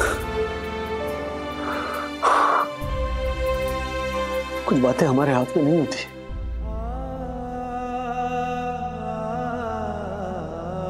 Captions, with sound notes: [exhales] We cannot control everything. [somber music plays]